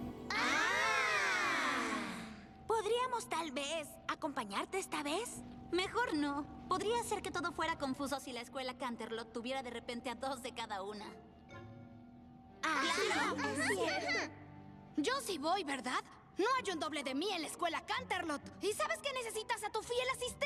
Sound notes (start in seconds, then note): 12.7 agreeing chatter